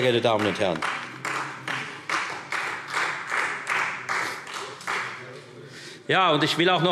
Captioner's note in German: Beifall Freie Demokraten